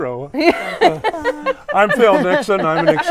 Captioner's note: everyone laughs